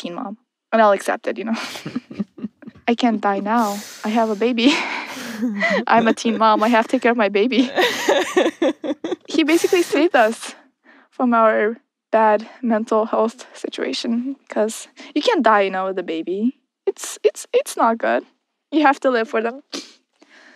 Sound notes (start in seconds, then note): 1.5 laughs; 4.6 they both laugh; 7.5 laughs